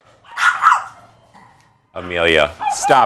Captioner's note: dog barking